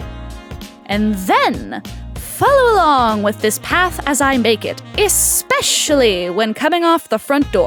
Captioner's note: singsong